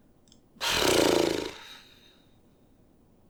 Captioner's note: huffy sigh